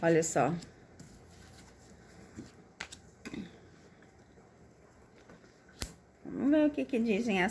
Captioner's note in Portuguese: limpando a garganta